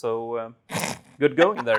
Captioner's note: snorts